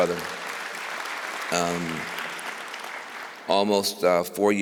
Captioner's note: applause